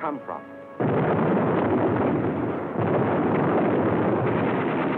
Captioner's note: explosions